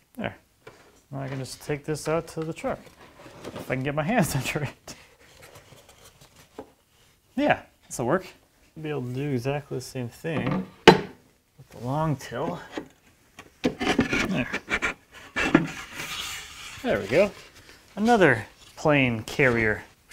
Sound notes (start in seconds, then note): 10.5 metal clunking; 15.2 wood scraping